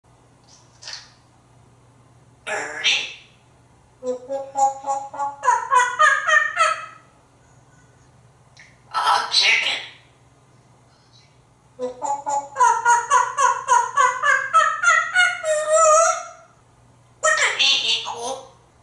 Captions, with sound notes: Bir-die. [Monkey sounds] Ah! chicken. [Monkey sounds] [Singing] What does E equal?